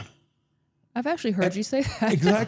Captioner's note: laughs